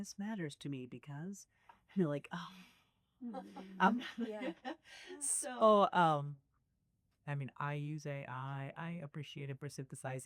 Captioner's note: laughter